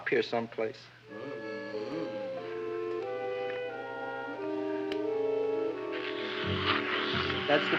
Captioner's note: placid music; Audrey Jr. slurping